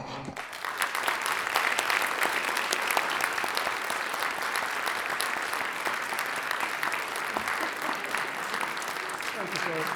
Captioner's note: applause